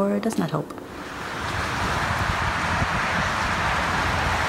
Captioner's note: cars passing